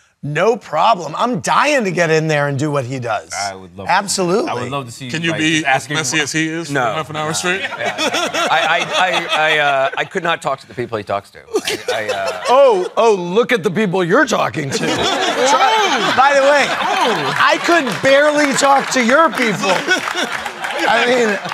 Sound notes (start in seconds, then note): 7.3 laughter; 11.5 laughing; 14.6 laughter; 19.8 laughing